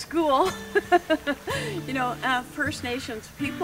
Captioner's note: laughs loudly